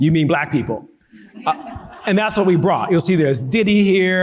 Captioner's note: audience laughing